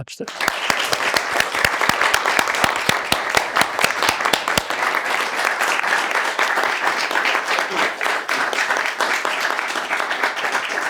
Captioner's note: applause